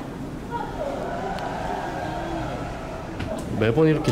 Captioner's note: audience cheers